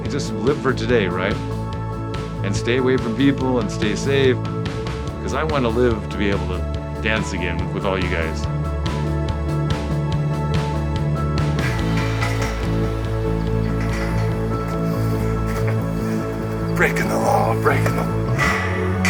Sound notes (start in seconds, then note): 11.5 gate clatters; 15.9 laughs